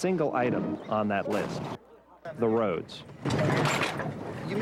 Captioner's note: cannon shots exploding; vehicle banging dramatically